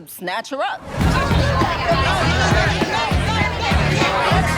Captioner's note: chatter